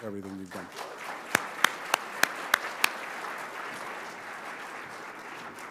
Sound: audience applauding

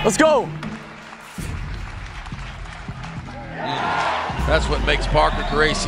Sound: cheering

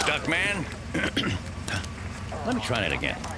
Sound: clears throat

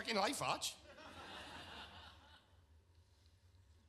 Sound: audience laughs

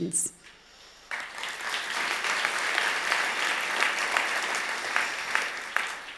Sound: audience applause

